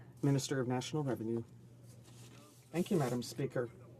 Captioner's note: speaking French